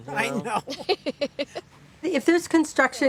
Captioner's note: both laugh